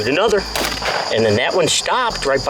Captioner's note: gunshot